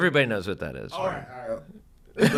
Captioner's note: laugh